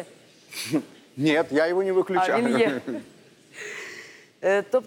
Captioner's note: chuckles